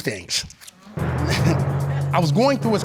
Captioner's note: chuckles